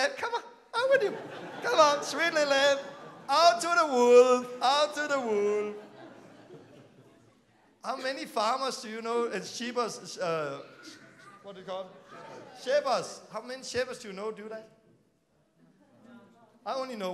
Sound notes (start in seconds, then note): 6.1 laughing